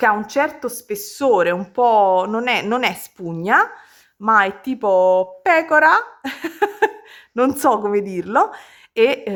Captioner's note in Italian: risate